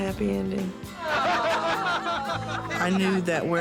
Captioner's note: laughter